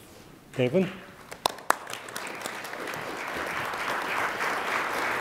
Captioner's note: attendees applaud